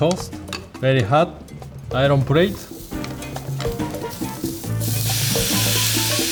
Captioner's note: plate sizzles